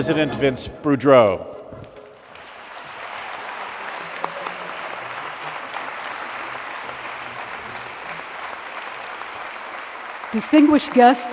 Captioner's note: applause